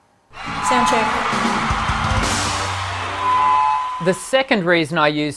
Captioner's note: audience roaring